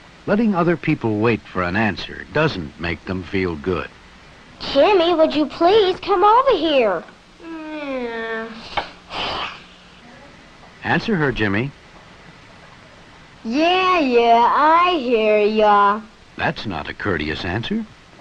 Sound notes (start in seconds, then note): 7.4 frustrated sigh